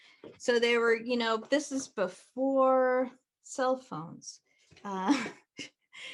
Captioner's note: laughs